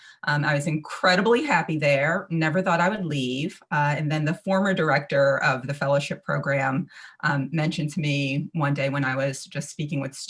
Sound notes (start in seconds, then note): none